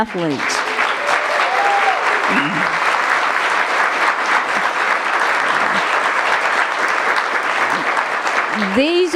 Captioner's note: applause